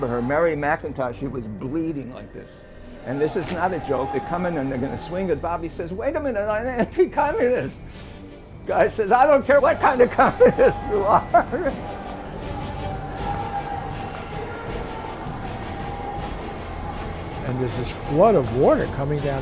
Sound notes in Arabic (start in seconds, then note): 11.9 موسيقى أوركسترالية درامية; 12.0 الجميع يصرخون